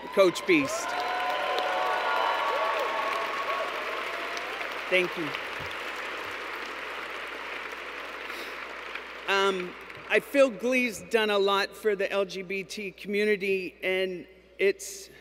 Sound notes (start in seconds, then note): 0.0 cheers; 5.3 applause